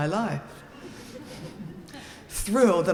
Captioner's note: audience laughing